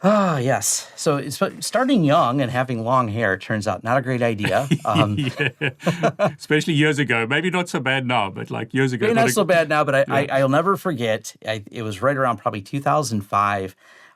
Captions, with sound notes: - Oh yes, so starting young and having long hair turns out not a great idea. - (chuckles) Especially years ago. Maybe not so bad now, but like years ago. - I mean not so bad now, but I'll never forget, it was right around probably 2005.